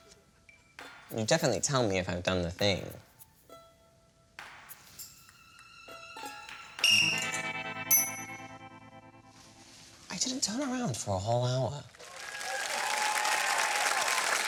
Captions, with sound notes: You'll definitely tell me if I've done the thing? (BLOWS WHISTLE) I didn't turn around for a whole hour? (CHEERING AND APPLAUSE)